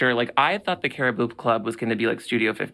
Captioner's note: none